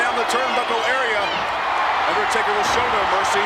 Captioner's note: audience cheers